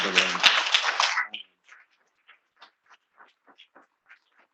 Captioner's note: attendees applauding